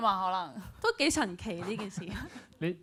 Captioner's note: laughs